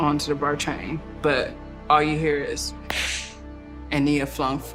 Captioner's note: clap